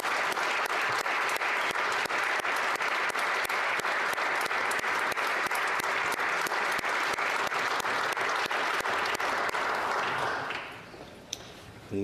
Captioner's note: applause